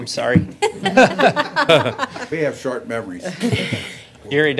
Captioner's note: laughter